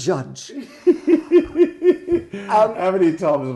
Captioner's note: Ainsley laughing